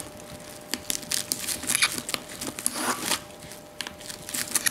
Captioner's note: cracking noises